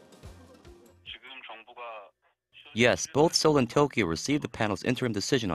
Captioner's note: Korean